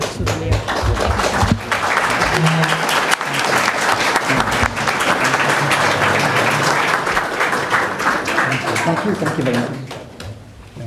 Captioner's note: applause